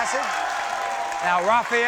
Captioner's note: audience cheers